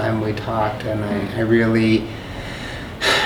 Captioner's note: sighs